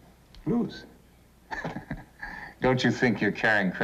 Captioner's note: laughs